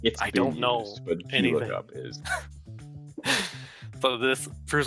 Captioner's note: laughs